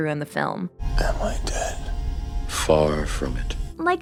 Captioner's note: hoarsely